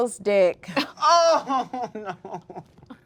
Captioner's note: laugh